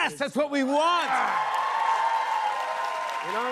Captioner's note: cheers and applause